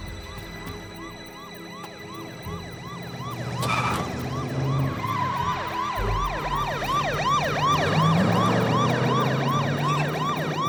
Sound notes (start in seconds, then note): 0.2 tires screeching; 6.3 police siren